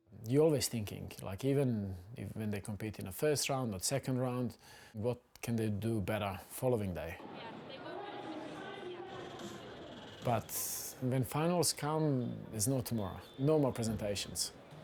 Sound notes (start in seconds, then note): 9.0 people chattering